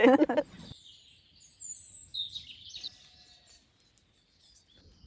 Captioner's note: birdsong